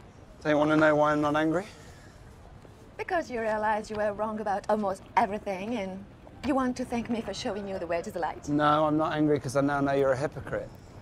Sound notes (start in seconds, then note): none